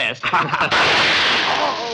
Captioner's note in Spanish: Disparo